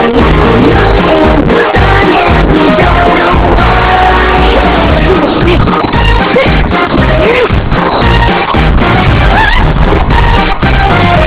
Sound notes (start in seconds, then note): 9.0 wails